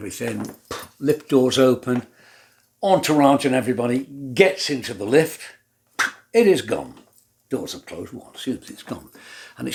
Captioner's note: puff; pew!